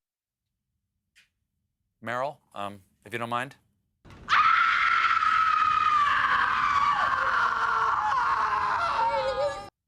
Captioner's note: screaming